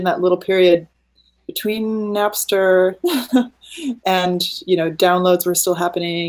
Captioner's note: laughing